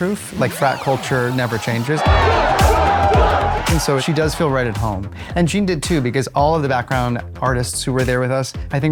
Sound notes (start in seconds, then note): 1.9 chanting